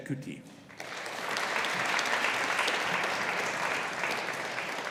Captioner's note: audience applauding